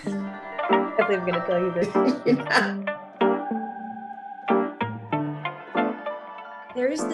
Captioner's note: laughs; laughs